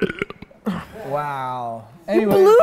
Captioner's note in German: Rülpser